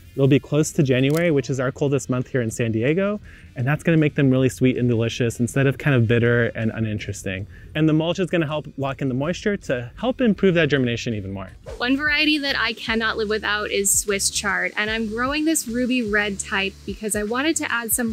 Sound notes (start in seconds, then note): 11.6 screen whooshes